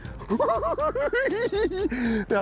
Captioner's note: cackling